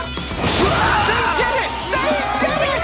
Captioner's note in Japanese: ２人の叫び声